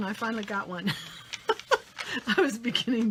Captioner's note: laughs